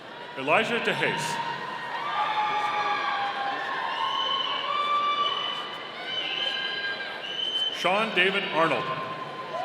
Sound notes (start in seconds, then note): 2.0 audience cheering; 8.3 audience cheering